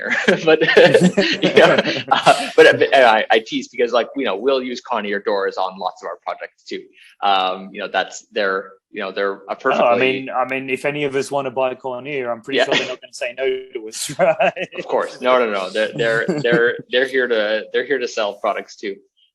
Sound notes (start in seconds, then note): 0.0 BOTH laugh; 13.7 laughs